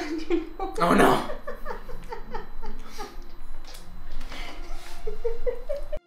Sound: laughing

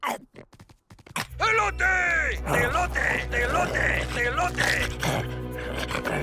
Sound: toy talking in Spanish

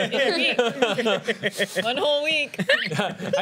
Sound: laughter

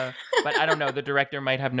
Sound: laughing

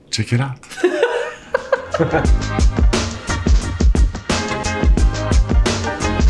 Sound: both laughing; lively music

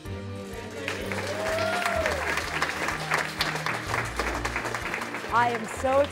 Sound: applause

